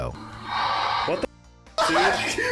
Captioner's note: baby monitor hisses; men laughing